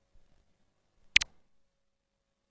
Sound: 128-bit click

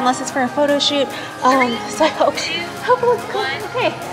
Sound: laughing

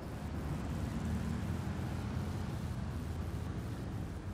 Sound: traffic noises

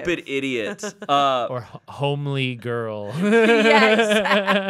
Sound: chuckling

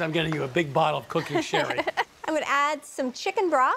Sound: laughs

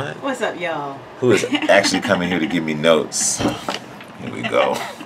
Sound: sighs; laughs

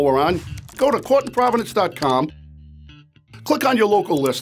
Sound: keyboard keys clicking

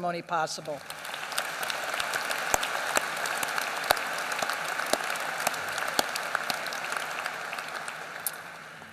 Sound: applause

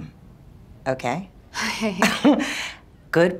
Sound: chuckles

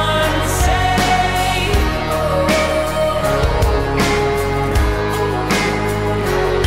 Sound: wooooh oooooh

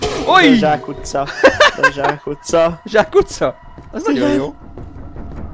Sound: laughter

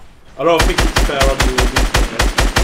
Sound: none

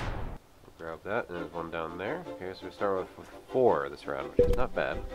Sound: none

